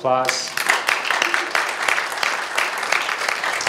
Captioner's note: audience applauds